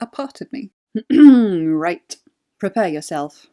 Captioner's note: clears throat